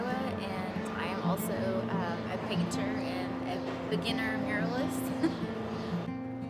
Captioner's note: laughs